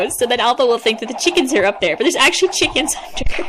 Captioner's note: squeaky amusement noice